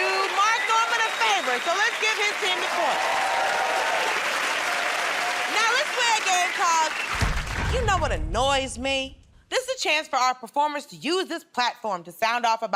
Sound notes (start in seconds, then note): 3.5 cheers and applause